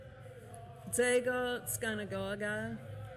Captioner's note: non-english speech